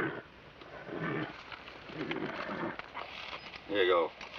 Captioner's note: horse grunting